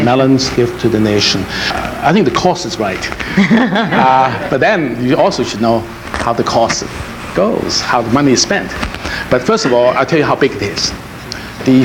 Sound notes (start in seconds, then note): 2.8 laughs; 3.1 audience laughs